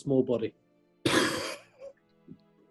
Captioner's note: laughs